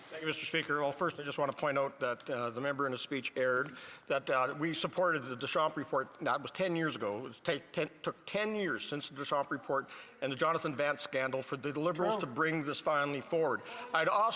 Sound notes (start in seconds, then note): 0.6 speaking French